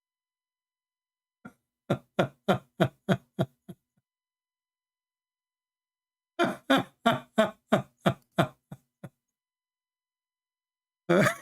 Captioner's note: Ketawa